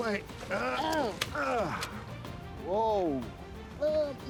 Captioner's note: Peter groaning